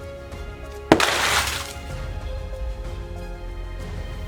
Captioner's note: thump and rustling crash